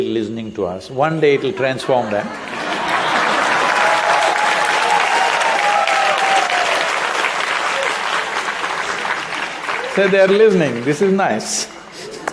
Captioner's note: applause/Cheering